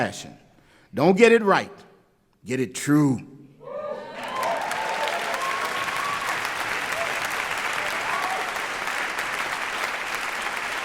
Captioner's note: applause